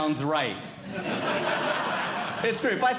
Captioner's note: audience Laughing